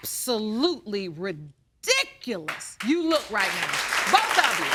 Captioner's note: audience applauding